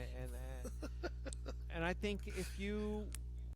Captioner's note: laughing